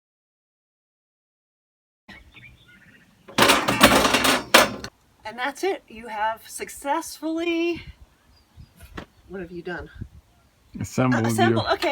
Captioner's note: crash